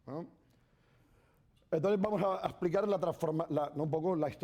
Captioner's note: speaking spanish